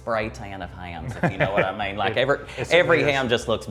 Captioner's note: chuckles